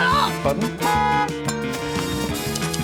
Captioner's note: clicks; honks; typewriter keys clicking